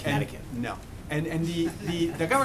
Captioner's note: laughter